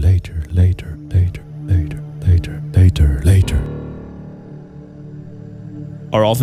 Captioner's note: echo